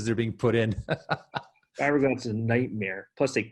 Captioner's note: laughing